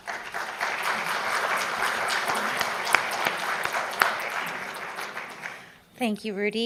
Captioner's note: applause